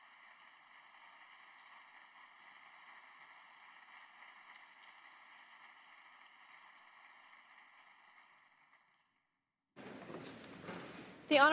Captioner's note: cheering and Applause